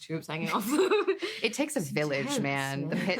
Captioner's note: laughing